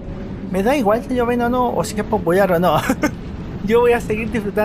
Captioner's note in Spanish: risas